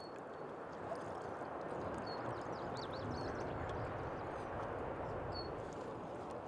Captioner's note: birds singing; paddle swishing water